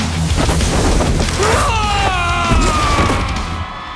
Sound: man screaming

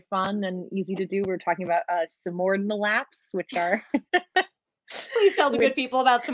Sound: laughs

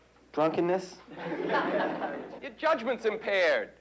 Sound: students chuckle

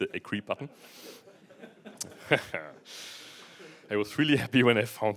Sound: laughter

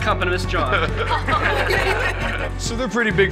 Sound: all laughing

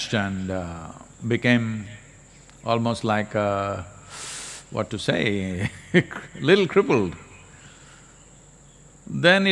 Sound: laughs

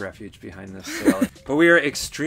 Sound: laughs

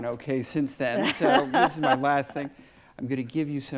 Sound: Elena laughs

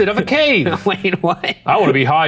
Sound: chuckling

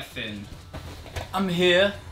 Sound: in unison with television

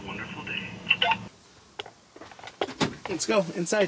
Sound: turned radio off

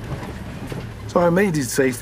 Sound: truck rumbling

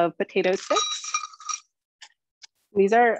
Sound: snacks pouring

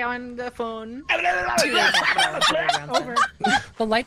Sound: laughs

